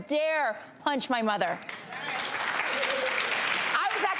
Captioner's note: audience applauding